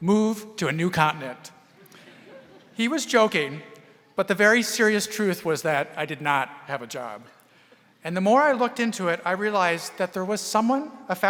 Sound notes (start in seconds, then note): 1.8 audience laughing